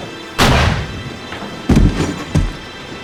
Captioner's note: gunshot